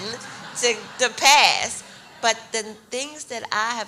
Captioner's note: audience laughs